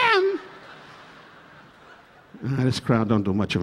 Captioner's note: audience laughing